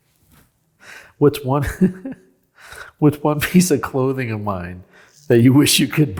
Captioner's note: chuckles